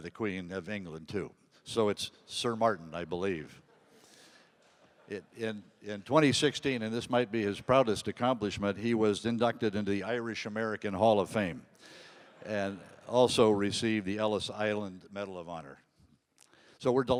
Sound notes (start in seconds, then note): 4.6 audience laughing